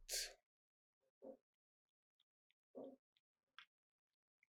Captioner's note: pauses 6 seconds